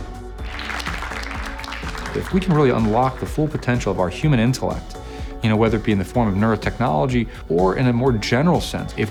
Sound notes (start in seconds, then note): 0.4 students clapping